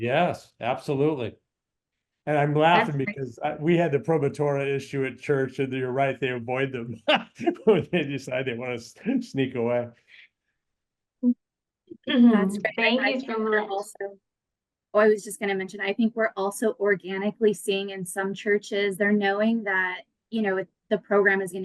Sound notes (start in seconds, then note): 5.9 laughs